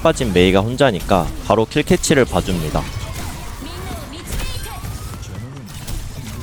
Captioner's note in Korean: 비명